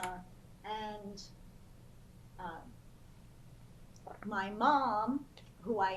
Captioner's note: pauses for 3 seconds